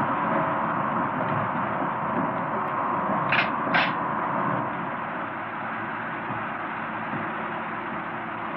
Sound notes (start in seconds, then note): 3.3 gun racking